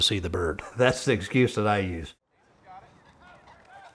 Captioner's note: laugh